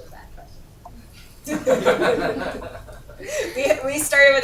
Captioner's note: laughter